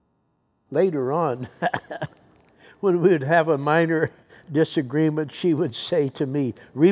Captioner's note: chuckles